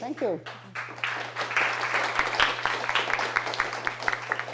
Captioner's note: applause